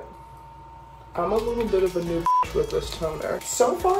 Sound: beep

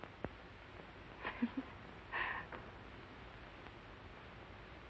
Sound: chuckles

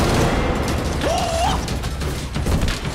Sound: grunting

